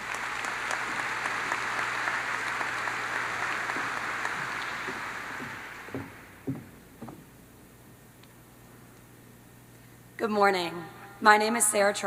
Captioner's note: applause